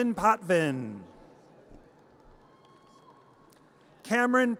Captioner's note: audience cheers